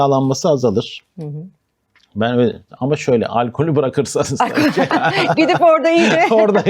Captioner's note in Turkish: kahkaha